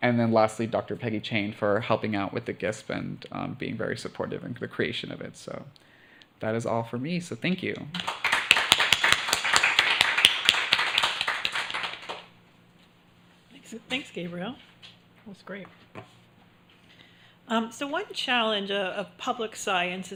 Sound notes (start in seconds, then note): 7.9 applause